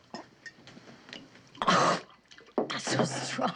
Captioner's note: coughing